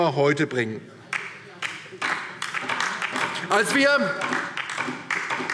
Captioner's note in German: Beifall DIE LINKE